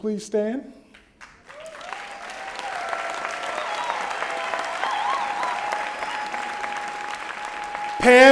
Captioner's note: applause